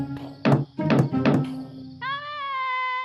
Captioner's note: knocks; woman speaks gibberish